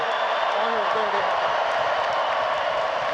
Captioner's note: cheering